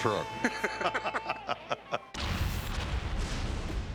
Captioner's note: laughter